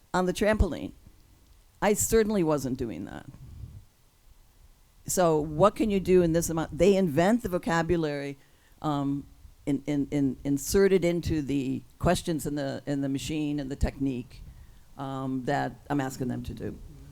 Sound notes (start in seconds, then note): none